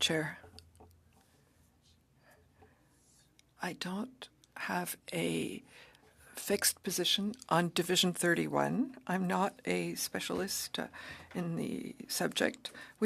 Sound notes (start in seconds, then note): 1.8 speaking French